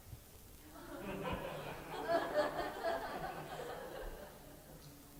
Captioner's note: laughter